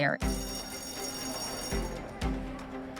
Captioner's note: bright music; bell ringing; student speaking faintly